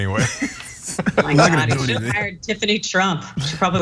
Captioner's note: laugh